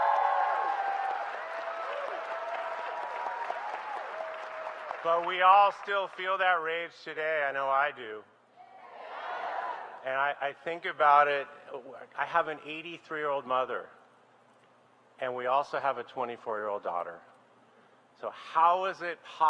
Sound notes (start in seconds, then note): 4.3 applause